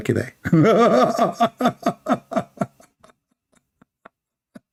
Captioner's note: Ketawa